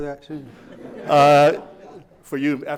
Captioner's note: laughing